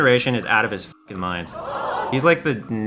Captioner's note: audience gasp sound